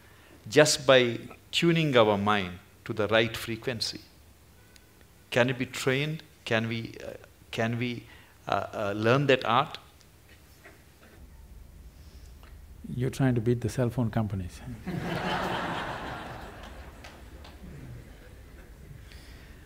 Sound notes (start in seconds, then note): 14.8 laughter